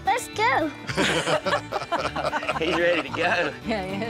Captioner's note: laughter